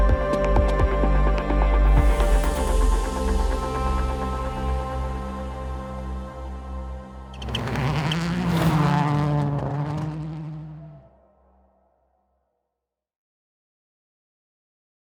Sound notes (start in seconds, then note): 7.2 engine noises